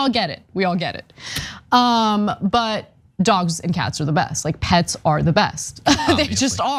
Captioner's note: laugh